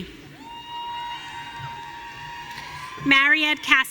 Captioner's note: audience cheering